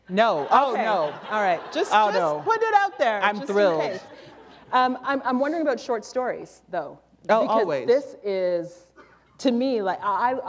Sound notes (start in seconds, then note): 4.1 laughter